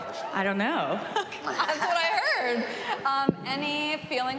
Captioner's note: chuckles